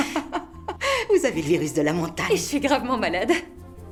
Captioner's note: laughing